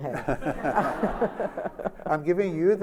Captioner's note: laughter